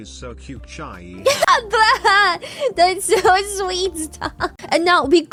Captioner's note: laughs